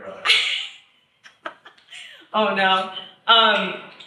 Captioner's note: laughs